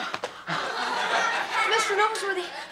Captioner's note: audience laughs